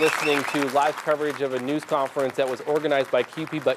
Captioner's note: applause